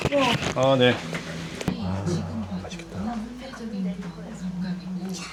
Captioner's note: whispering